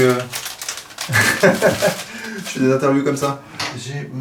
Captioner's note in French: rires